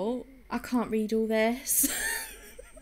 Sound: laughs

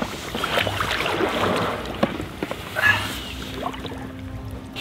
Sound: water sloshing

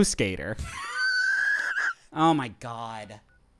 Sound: laughing

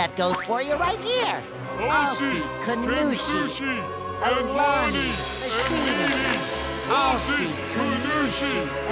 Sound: chanting gibberish

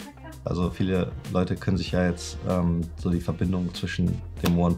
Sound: speaking foreign language

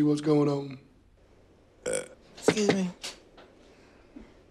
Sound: burps

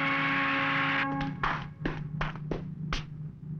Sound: footsteps approach

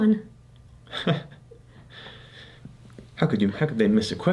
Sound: Math Dad chuckles

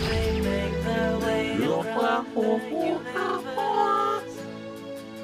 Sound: alien hums along

